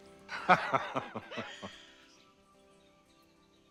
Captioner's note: cyril laughs